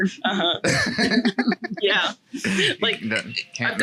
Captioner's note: laughs